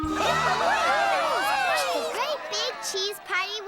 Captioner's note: cheering